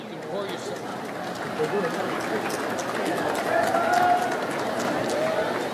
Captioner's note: audience applauds